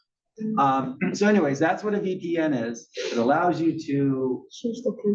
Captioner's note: laugh